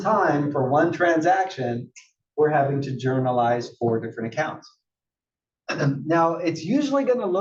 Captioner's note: cough